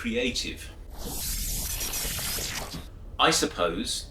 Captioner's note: electronic sounds